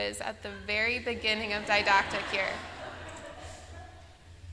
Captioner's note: laughter